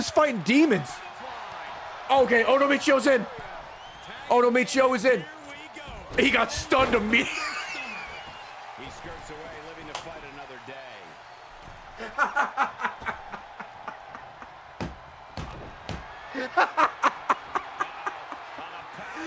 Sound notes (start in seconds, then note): 9.9 laughs